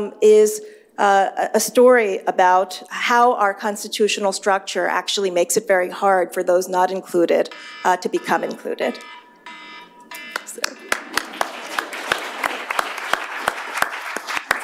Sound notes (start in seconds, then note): 7.4 alarm ringing; 10.3 applause